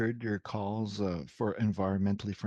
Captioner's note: speaking in French